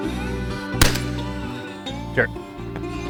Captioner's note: gunshot